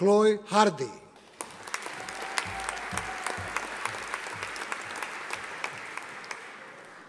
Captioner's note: audience applauding